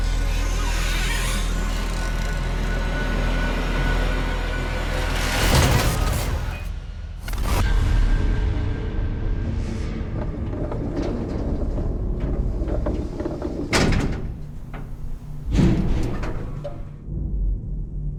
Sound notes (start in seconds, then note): 0.3 slow dramatic music; 3.5 door creaks; 7.9 slow music; 9.9 gate rattles